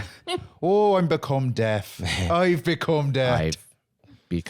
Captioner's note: laughing; Irish accent